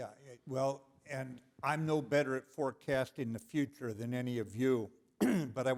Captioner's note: cough